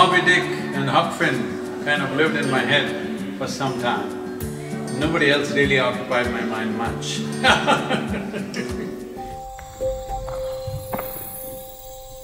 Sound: laughs

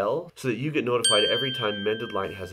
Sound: bell rings

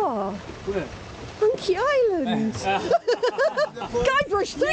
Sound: laughing

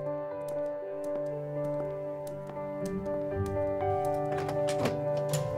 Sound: lighthearted music; footsteps tapping

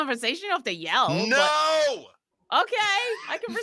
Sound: laughs

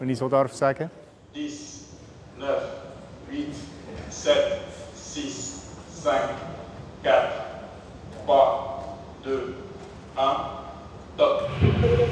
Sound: man, in French

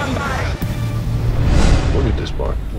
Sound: whoosh

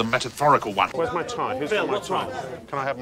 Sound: chatter

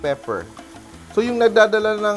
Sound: sizzling sound

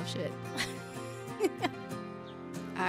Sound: laughs

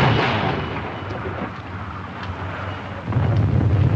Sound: explosion

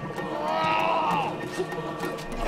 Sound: grunting

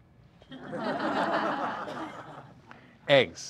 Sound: audience laughter

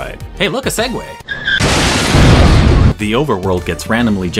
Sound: exploding segway noises

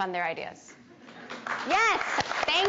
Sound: audience applauding

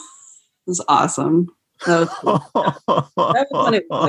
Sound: laughter

